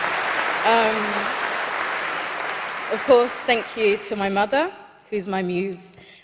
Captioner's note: applause